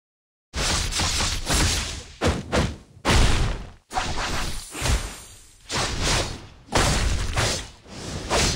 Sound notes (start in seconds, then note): 1.0 slashing sounds